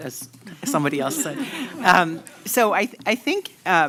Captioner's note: laughter